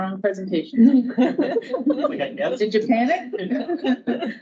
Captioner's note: audience laughing